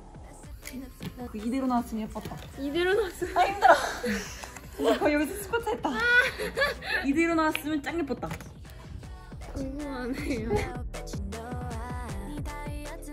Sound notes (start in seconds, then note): 6.0 burst into laughter